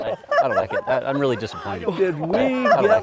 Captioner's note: laughing